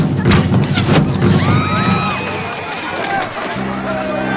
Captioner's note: rapid drumming; screaming